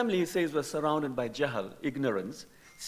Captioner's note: speaking in foreign language